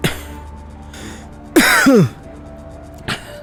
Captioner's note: coughs